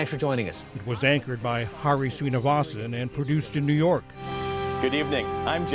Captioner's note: voice-over